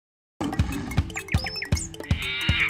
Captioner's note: animal sounds; fun music